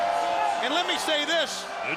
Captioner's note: crowd cheering